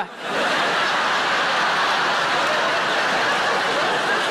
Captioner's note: audience laughing